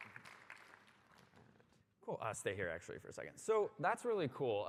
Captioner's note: applause